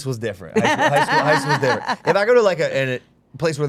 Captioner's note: group laughing